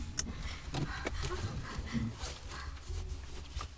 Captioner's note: Connie gasps